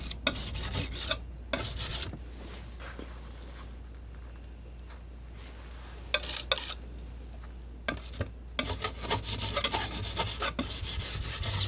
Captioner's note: metal scraping